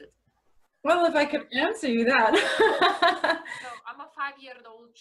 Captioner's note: laughs